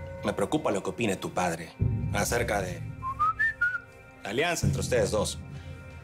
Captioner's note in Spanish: Silbido